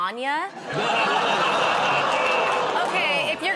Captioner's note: laughter